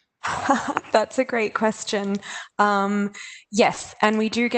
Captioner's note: chuckles